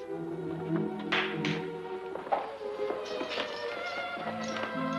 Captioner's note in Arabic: تصفق